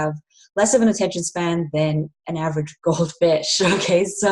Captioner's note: laughs